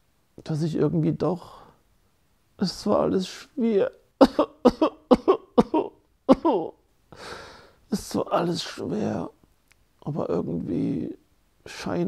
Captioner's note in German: Weinen